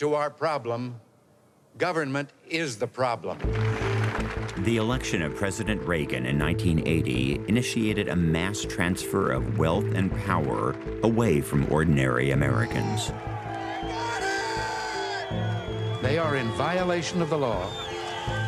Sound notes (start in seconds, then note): 3.4 audience applauding; 12.6 crowd shouting